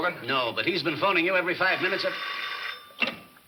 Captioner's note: phone rings